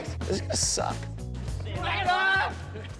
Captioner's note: yelling; chill music